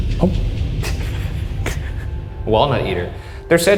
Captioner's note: both snickering